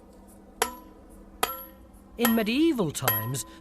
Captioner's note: sledgehammer thudding